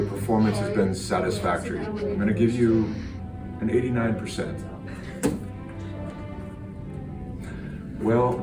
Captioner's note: epic 5 Slapping Sounds